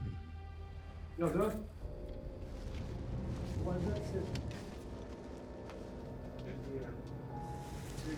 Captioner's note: ratchet talking outside